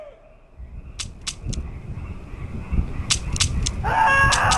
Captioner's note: gun clicking